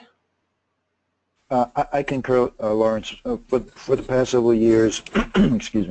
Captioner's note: clears throat